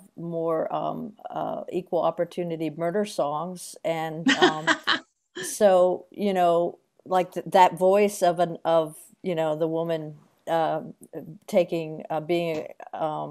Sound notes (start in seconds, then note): 4.2 laughs